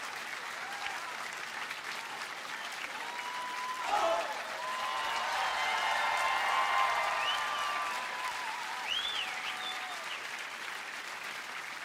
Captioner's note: applause